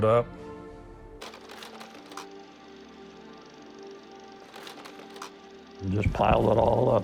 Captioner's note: sound of projector